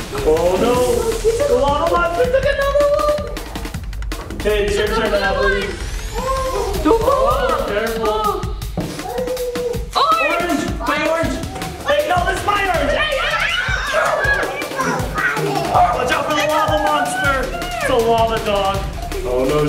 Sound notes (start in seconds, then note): 0.0 lava monster giggling; 13.2 screaming; 14.1 lava dog growling